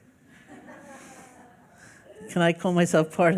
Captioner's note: laughing